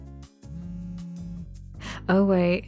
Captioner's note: phone buzz